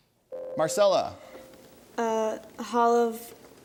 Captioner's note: ding